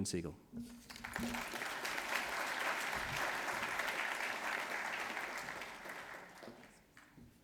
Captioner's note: applause